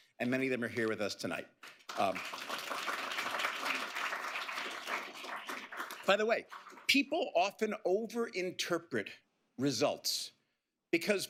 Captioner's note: applause